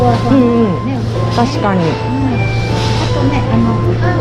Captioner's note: laughs